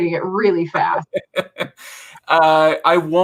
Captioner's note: laughs